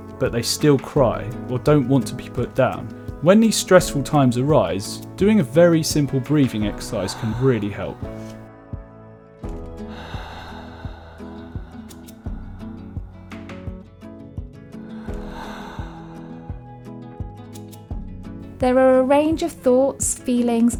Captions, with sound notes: but they still cry or don't want to be put down. When these stressful times arise, doing a very simple breathing exercise can really help. (person deep inhales and exhales) There are a range of thoughts, feelings,